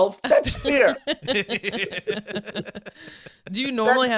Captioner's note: laughing